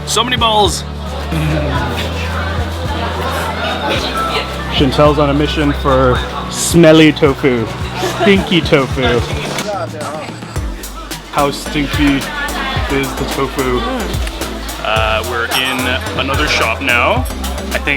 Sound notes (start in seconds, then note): 1.1 laughing; 9.8 speaking in a foreign language